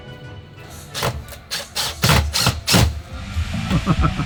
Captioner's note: drill rumbling; laughing